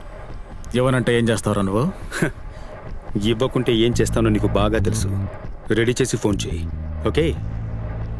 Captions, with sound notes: What will you do if I refuse? - [Chuckles] You know what I'll do if you refuse. Keep the money ready and call me. Okay?